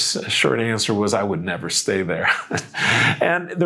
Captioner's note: laughs